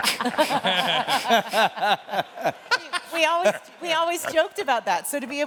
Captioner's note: laughter